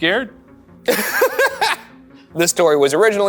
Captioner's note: laughs